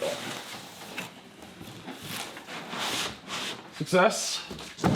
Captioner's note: box rustling; packaging thumping